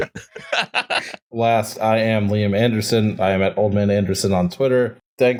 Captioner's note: laughter